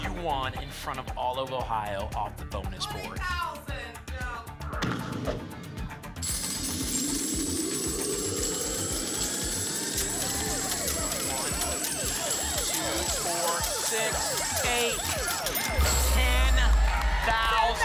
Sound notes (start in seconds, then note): 4.8 thump; 6.2 coins jingling; 10.2 sirens